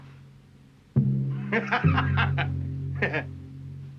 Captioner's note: laughs